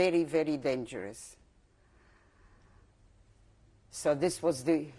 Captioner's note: pauses for 3 seconds